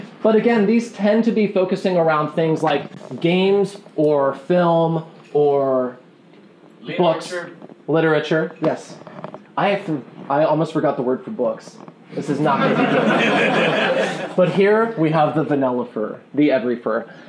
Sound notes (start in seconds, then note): 12.4 laughing